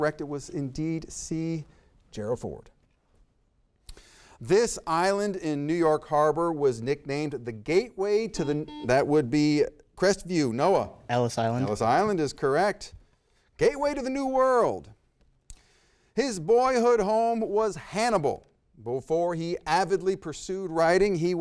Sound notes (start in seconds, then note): 8.3 buzzer beeps